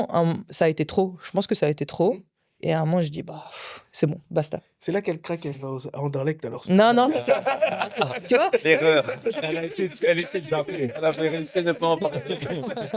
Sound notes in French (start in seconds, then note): 7.0 rires